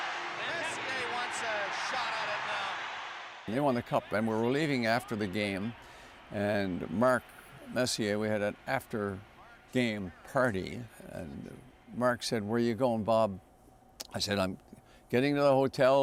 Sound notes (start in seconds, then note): 0.0 cheers and Applause